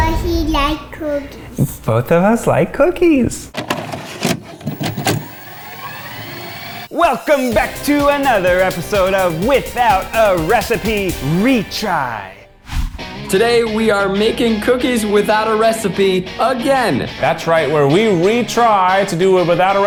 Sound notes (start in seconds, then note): 5.6 tape winds